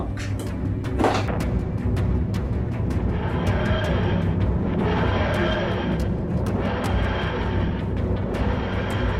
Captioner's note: whoosing